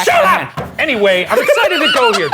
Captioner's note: laughing